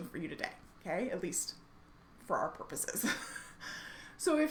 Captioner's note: laughs